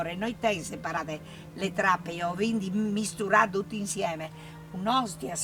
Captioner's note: Friulian Language